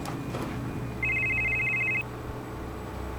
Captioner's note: phone rings